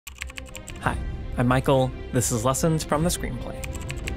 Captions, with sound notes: (keyboard typing) Hi, I'm Michael. This is Lessons from the Screenplay.